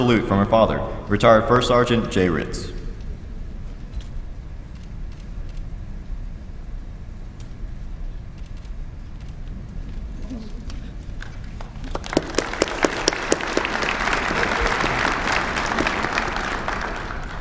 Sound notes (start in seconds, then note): 11.2 applause